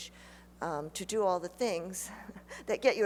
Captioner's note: chuckles